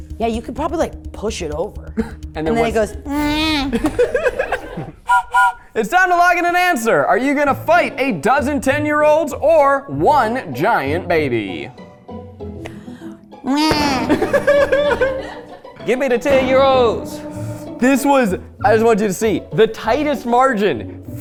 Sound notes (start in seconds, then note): 3.1 imitates baby; 3.4 everyone laughing; 5.0 train whistle blowing; 11.5 light music; 13.7 laughing